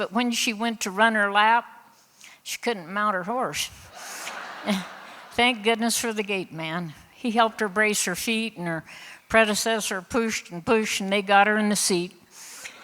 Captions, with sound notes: but when she went to run her lap she couldn't mount her horse. (Laughter) Thank goodness for the gate man... he helped her brace her feet, and her predecessor pushed and pushed and they got her in the seat.